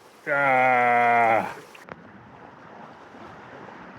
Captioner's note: grunting